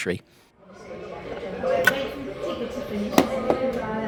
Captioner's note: click of handset being lifted